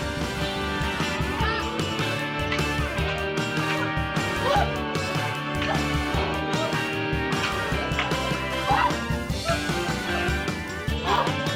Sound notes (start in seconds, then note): 2.4 clack of wood